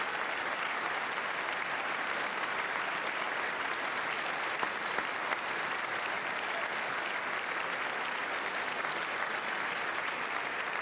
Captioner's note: applause